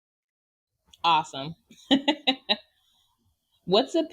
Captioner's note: laughs